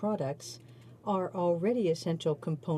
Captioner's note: speaking in french